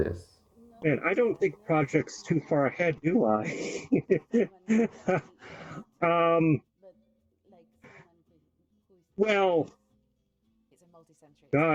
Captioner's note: laughter